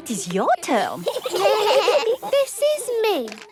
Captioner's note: children giggling